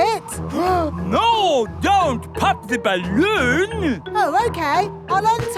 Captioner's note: gasps